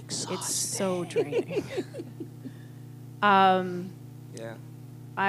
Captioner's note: bitter laughter